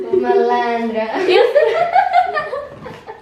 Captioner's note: laughs